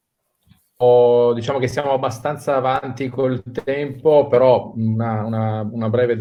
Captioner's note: speaking in foreign language